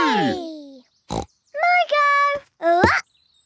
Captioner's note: snorts